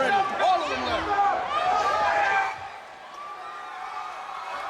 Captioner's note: crowd clamoring